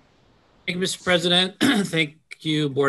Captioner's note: clears throat